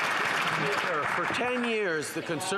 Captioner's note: some Applause